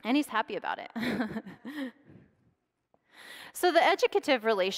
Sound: laughs

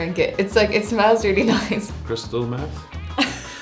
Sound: laughs; laughter

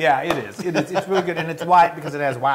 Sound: laugh

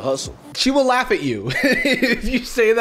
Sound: laughs

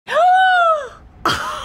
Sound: gasps; both laugh

